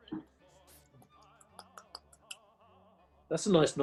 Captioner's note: wet tongue sounds